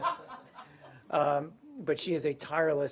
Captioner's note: laughter